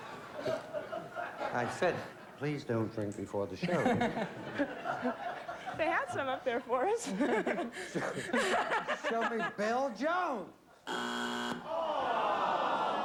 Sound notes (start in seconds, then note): 10.8 buzzer